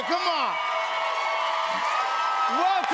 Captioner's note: cheers and applause